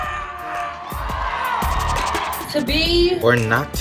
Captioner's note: audience cheering